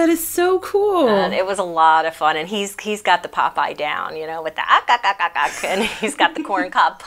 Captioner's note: Popeye sounds